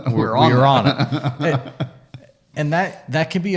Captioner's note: laughing